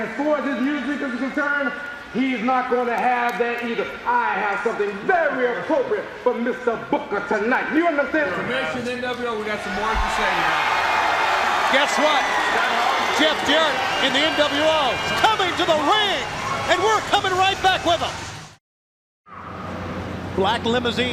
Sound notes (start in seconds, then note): 5.8 crowd cheering